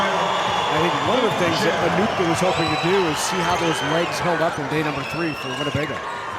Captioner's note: crowd cheering